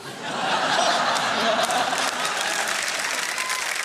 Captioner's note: laughter; cheering and applause